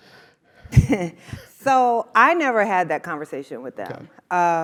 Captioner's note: laugh